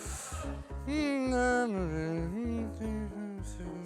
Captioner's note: hums